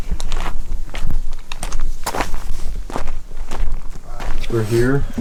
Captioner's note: footsteps crunching